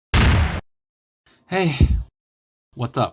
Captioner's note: bumped mic sound